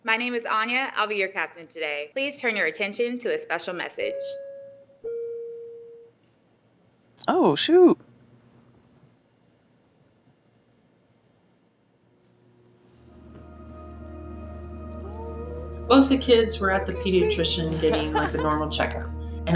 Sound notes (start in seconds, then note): 5.0 flight alarm dinging; 13.1 inspirational instrumental music